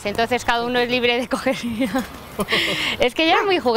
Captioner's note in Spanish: risas